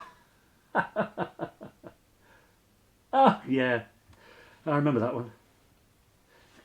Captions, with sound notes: (laughing) - Ah yeah, I remember that one.